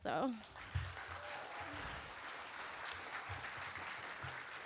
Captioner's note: applause